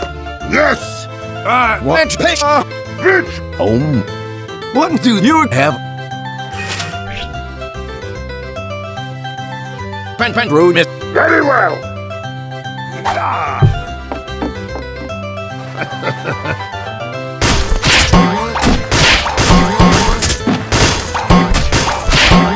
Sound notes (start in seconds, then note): 3.0 Peppino on phone; 3.5 engineer exclaims